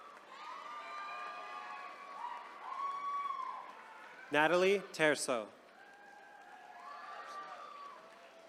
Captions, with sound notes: (attendees cheering) Natalie Trso.